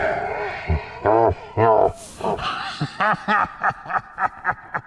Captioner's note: cackling